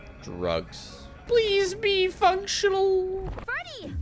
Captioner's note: mockingly